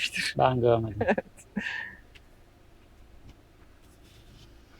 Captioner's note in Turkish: kahkaha